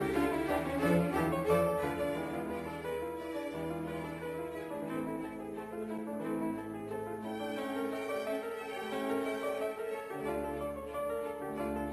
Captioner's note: speaking French